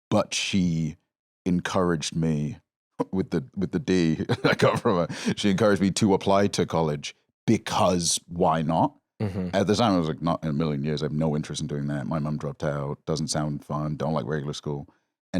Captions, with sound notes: but she encouraged me... (laughs) With the D I got from her, she encouraged me to apply to college, because why not? I was like, "Not in a million years. I have no interest in doing that. My mum dropped out. Doesn't sound fun. Don't like regular school."